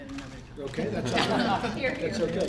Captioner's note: laughter